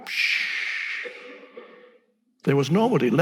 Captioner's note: Echkart imitating fire sizzling